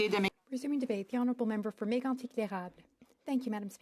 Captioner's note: speaking French